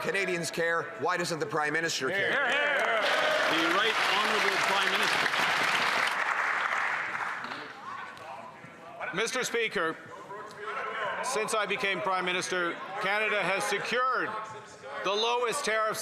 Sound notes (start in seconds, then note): 7.5 some Applause